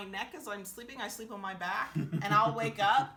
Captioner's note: laughing